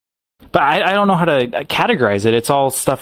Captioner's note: stammering